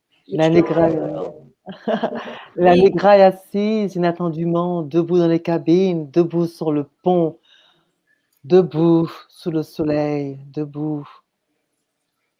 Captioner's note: speaks french